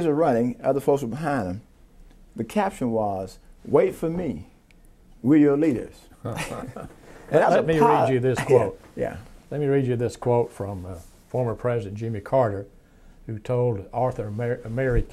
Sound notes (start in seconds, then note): 6.2 both chuckling